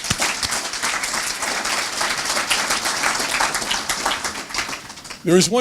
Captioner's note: applause